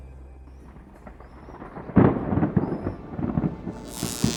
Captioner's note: thunder